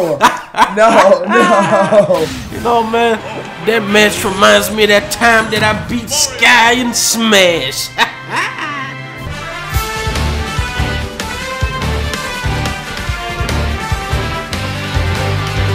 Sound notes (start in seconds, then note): 0.0 laugh of satisfaction; 7.3 laugh